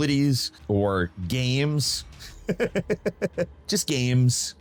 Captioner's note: laughs